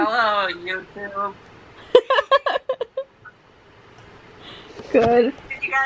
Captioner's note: both and I laugh